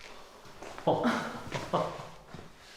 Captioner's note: laughing